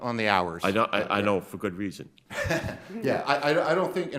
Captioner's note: chuckles